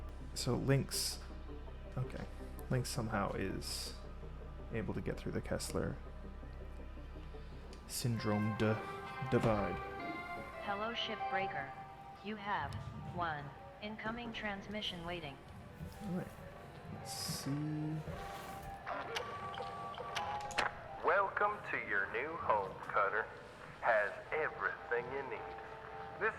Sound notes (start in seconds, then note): 10.3 Hab Voice